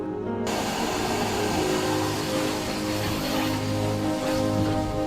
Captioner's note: water noise